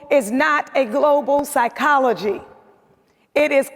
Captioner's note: none